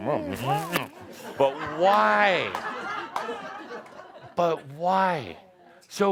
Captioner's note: laughter as he stops to hug and kiss someone